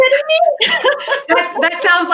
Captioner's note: laughing